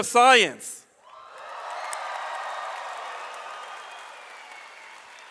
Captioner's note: audience applauds